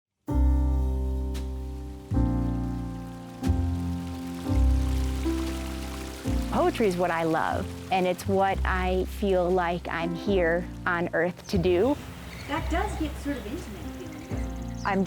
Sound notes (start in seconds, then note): 2.1 sound of a stream